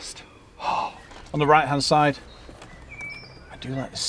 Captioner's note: gasp